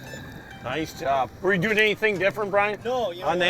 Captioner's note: voiceover